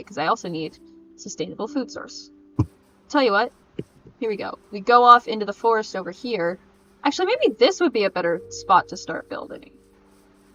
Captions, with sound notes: Because I also need a sustainable food source. *smacks mic* Tell ya what *smacks mic again* Here we go We go off into the forest over here... Actually, maybe THIS would be a better spot to start building.